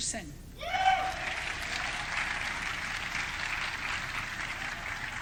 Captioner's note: audience cheering